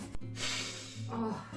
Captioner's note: sniffs